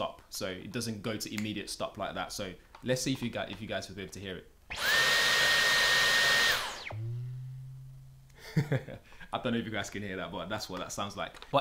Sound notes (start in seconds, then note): 4.7 vacuum screaming; 8.4 laughing